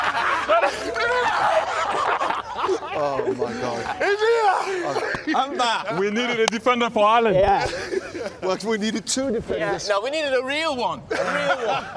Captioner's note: laughter